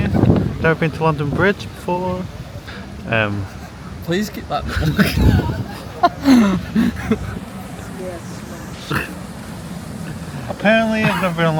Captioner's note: laughs